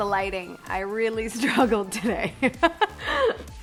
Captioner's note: laughs